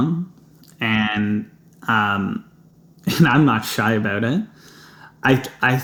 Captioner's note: chuckles